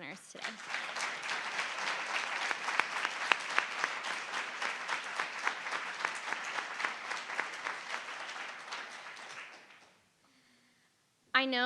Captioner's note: applause